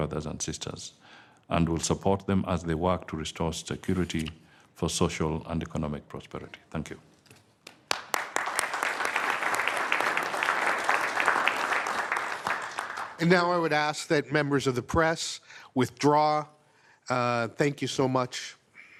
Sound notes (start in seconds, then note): 7.6 applause